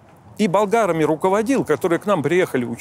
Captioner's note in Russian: none